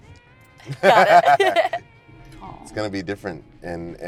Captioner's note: Ty and Georgia laugh